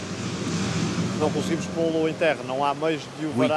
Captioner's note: speaking in foreign language